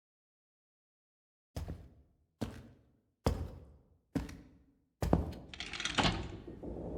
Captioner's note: footsteps echoing; door unlatches and opens